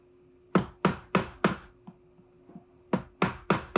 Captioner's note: mallet banging; mallet banging